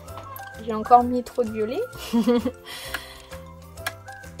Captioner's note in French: rires